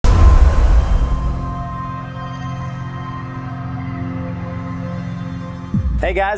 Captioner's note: sound effect